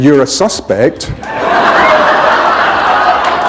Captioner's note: laughter